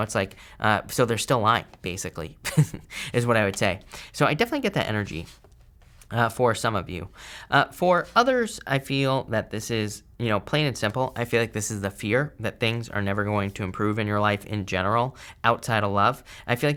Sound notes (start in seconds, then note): 2.4 chuckles